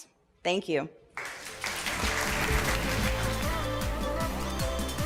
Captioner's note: applause